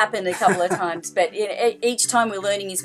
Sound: laughing

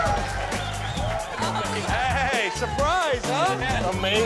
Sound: cheers and applause; chuckling

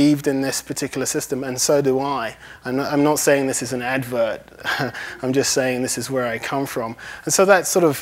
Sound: laughs

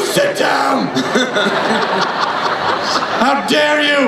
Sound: everyone laughs

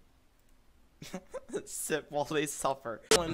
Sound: laughs

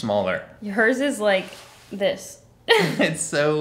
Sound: laughing

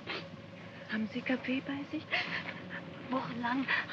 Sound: speaking in German; woman sobs; speaking in German

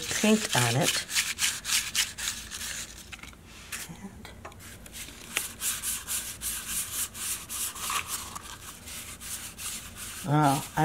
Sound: cardboard rustling

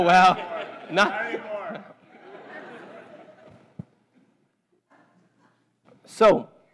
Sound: laugh

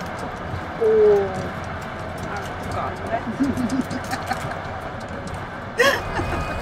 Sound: laughing

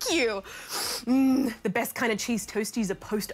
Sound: sniffs

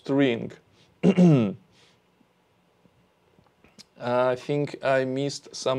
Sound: clears throat

